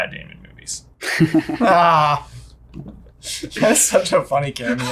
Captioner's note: laugh